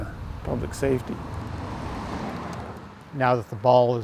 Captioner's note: car wheels rumbling